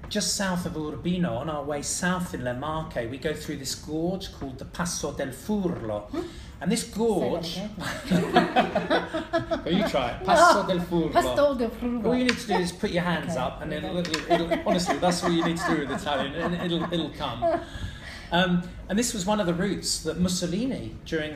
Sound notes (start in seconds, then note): 8.0 laughing